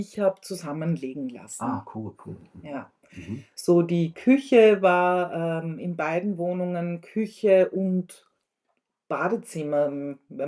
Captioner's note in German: räuspern